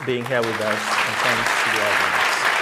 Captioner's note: applause